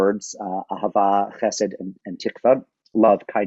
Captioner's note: speaking in a foreign language